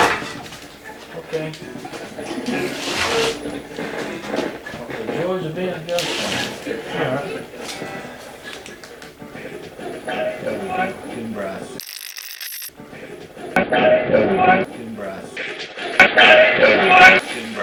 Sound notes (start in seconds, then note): 0.0 rattle; 1.8 sliding; 5.6 creaking; 12.4 radio scratching; 13.7 radio voices